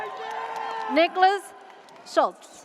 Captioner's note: audience cheers